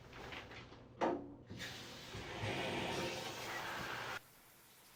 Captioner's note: shower starts